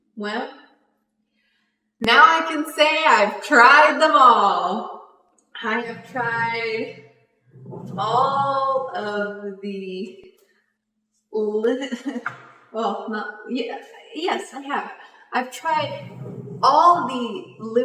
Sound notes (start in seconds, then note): 11.2 laughs